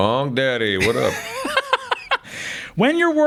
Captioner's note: laughs